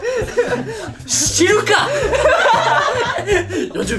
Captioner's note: laughs